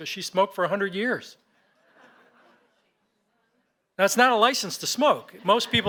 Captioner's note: laughter